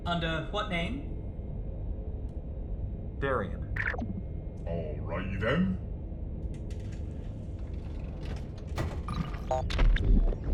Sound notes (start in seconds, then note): 7.0 heavy drawer closing